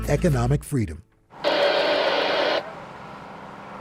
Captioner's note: radio static